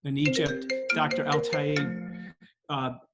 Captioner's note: phone ringing